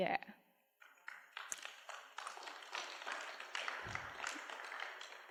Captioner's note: applause